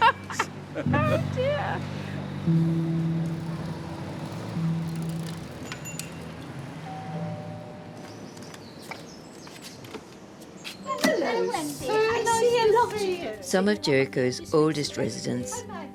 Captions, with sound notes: (laughter) ha ha .. oh dear [bike bell rings] [door bell rings] Hello Wendy, -Some of Jericho's oldest residents